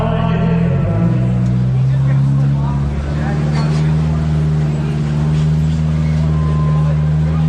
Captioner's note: engine revving